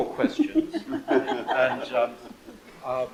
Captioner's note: group laughs